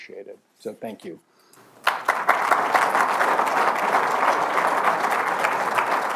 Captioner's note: applause